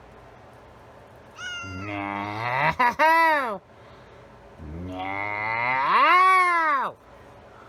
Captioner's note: meows angrily